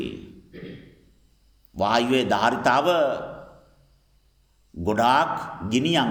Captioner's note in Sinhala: උගුර කෑරීම